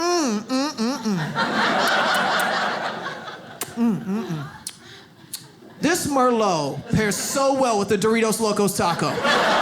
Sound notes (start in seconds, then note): 3.6 smacking lips; 5.5 audience laughs; 8.9 audience laughs